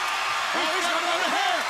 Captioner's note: crowd cheering